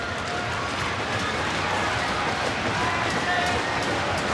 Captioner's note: crowd cheering